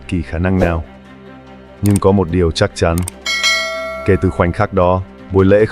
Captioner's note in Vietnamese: chuông